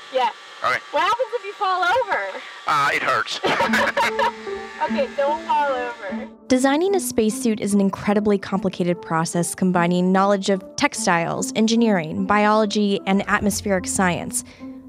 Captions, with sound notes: - Yeah. - All right. - What happens if you fall over? - Uh, it hurts. (laughs) - OK, don't fall over. Designing a spacesuit is an incredibly complicated process combining knowledge of textiles, engineering, biology, and atmospheric science.